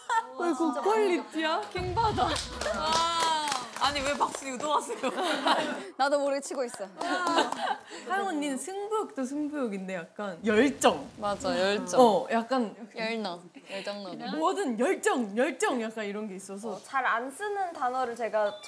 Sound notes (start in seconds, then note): 2.3 clap clap clap